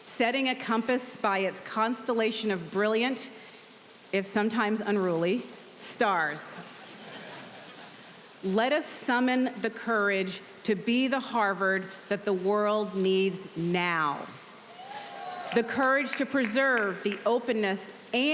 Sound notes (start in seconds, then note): 6.7 audience laughs; 14.7 audience cheering